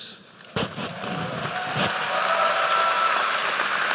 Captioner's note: applause